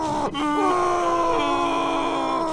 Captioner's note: grrrrrrrrrrrrrrrrr